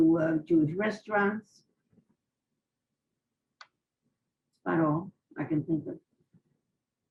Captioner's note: pauses for 3 seconds